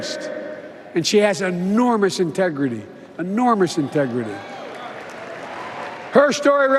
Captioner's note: applause